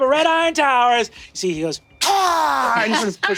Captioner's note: snarls